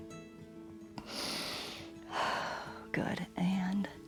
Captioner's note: inhales and exhales